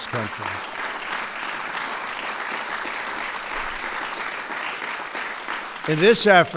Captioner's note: applause